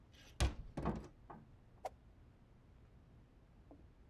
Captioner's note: door opens